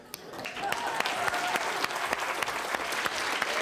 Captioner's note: applause